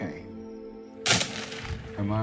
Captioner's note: gunfire